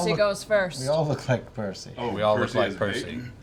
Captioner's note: none